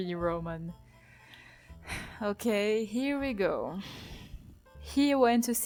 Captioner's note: sigh